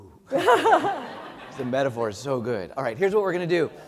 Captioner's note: laugh